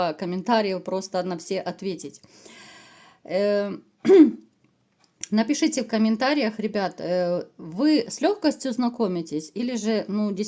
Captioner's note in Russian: откашливается